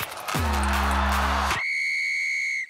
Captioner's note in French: sifflet